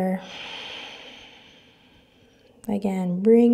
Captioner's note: breaths deeply